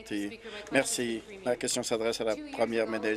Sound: applause

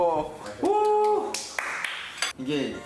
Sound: round of applause after waiting

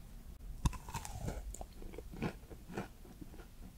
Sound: eating sound

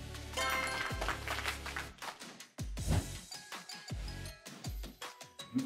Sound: applause sound effect plays

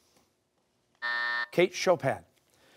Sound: buzzer

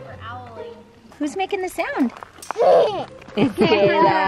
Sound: murmurs

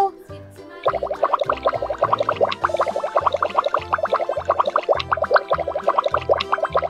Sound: bubbles

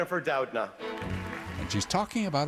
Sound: audience applause

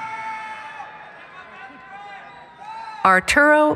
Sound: cheering

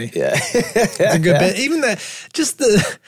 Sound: group laughing

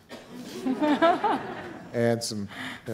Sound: audience laughing

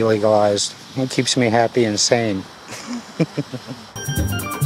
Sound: laughs

